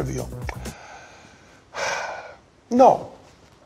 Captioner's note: sighing